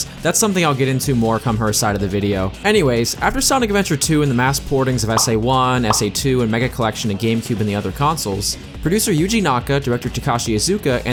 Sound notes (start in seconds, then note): 5.8 pop; 5.9 pop x2; 5.9 pop x3